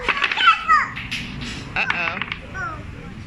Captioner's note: bricks clattering